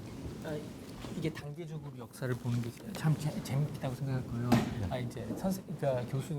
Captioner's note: speaking in Korean